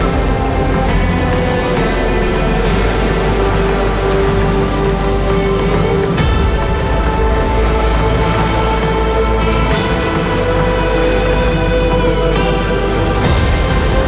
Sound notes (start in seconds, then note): 2.6 suspenseful music; 2.6 water cascading